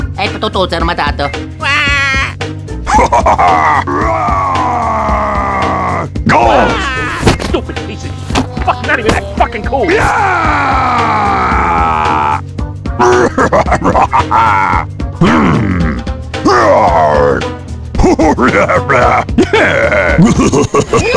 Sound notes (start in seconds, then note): 2.8 laughing; 8.2 swearing